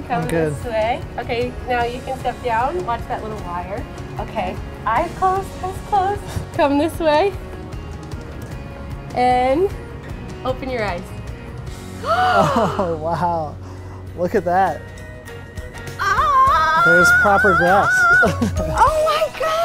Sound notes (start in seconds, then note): 11.4 upbeat music; 12.0 gasping; 16.1 squealing